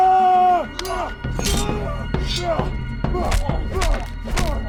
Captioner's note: both moaning; dramatic music